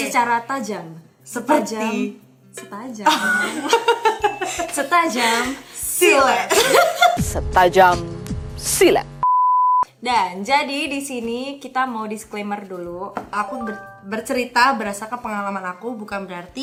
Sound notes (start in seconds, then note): 6.4 laughing